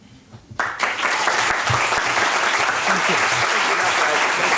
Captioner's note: applause